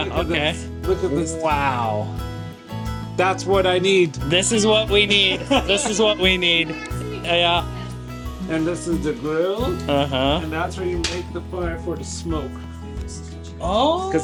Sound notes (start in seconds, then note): 7.8 laughing